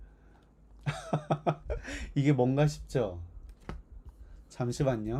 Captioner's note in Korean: 웃음